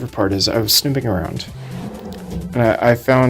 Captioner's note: drawer opens ominously